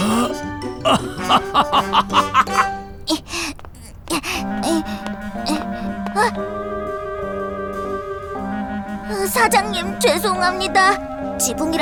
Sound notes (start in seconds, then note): 0.8 Mr. Bread laughs; 3.6 Wilk moaning